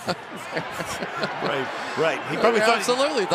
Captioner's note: laughs